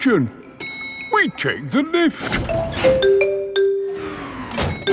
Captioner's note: elevator dings